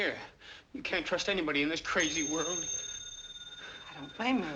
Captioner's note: phone ringing